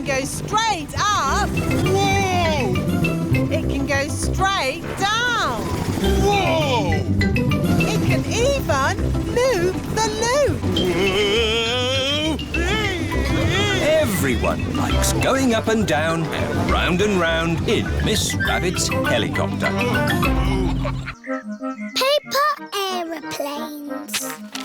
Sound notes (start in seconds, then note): 12.9 screaming; 20.2 daddy pig groans